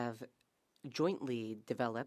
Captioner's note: speaking French